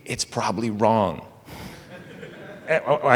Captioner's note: laughter